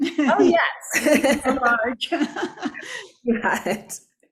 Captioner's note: both laughing